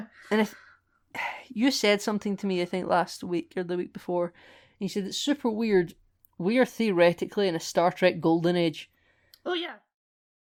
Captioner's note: sigh